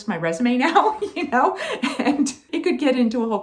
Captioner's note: laughing